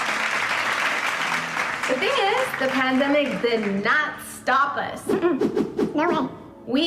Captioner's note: applause